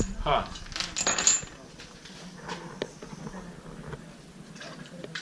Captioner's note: chain clinks